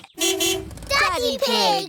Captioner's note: horn honks